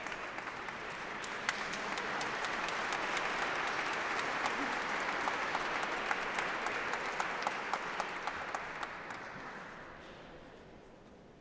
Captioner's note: applause